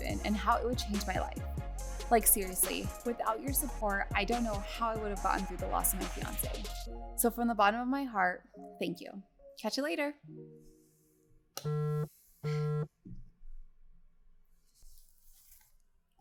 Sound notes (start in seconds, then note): 12.4 phone buzzes